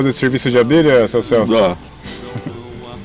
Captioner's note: laughs